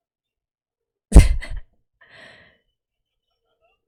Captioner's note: laughs